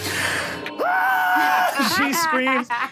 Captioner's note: screams; laughing